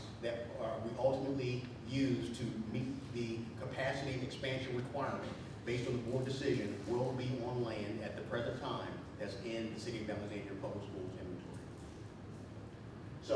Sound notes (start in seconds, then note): none